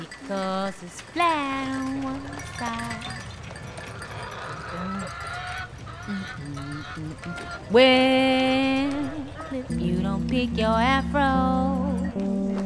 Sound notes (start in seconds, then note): 3.3 wind chimes clanking; 5.0 birds chirping; 6.1 humming; 12.4 soft piano music